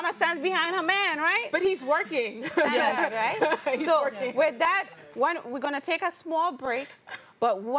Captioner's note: laughs